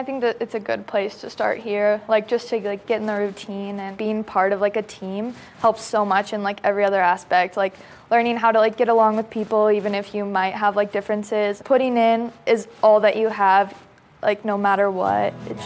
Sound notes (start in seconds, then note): none